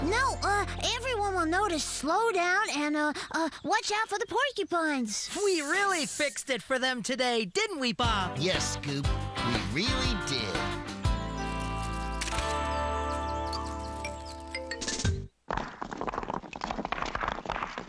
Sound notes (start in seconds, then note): 12.1 camera Click; 15.4 bricks Clattering